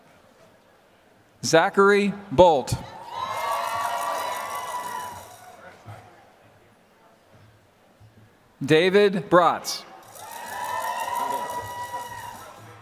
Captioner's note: applause